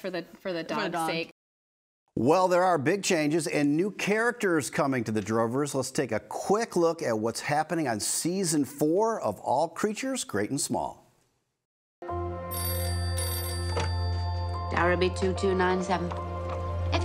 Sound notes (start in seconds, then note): 12.5 telephone rings